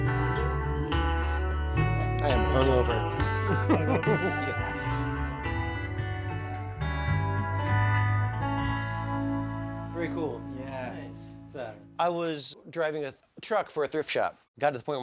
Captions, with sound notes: I am hungover (laughs), yeah. Very cool. - Yeah. - Nice. - I was driving a truck for a thrift shop.